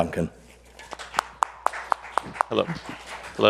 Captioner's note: audience applauds